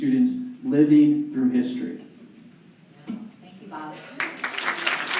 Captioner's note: applause